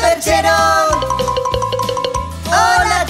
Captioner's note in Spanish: Sonido de campana